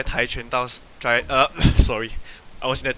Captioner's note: cough